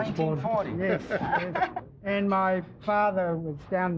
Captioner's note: laughing